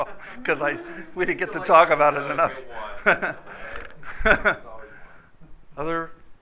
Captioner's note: laughter